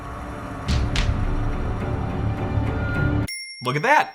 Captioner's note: suspenseful music; bell chiming